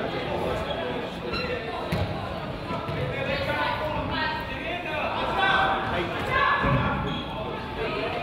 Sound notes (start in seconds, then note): 5.4 crowd